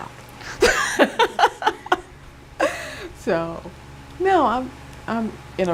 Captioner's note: laughing